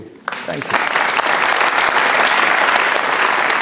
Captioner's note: applause